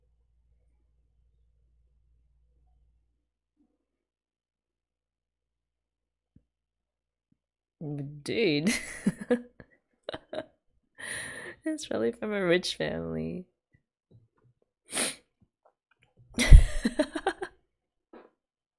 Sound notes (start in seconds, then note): 10.1 laughs; 16.4 laughs